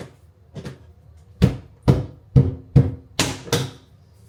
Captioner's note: fists banging